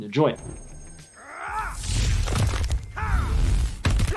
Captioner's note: yelling